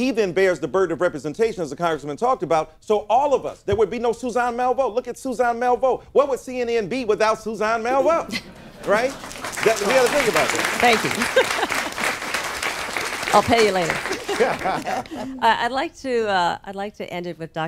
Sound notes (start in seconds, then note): 8.8 applause; 11.3 laughs